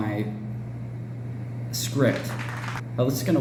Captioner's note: applause